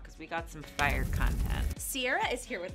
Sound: flames roaring

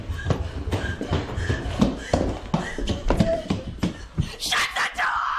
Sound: deep breathing

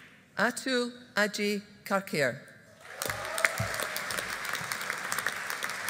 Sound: audience applauding

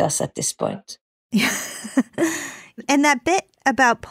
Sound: laughing

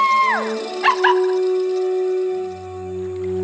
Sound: barking

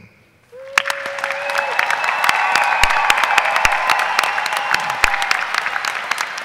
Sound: audience applauding and cheering

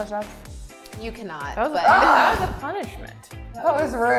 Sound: laughs

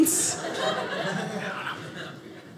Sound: audience laughing

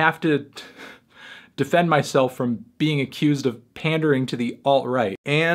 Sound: chuckles

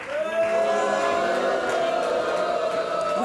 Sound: booing

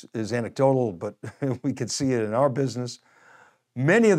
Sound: chuckles

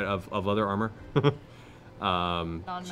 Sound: chuckles

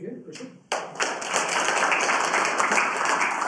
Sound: students applauding

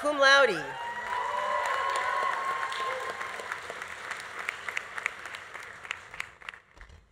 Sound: audience cheering; audience applauding

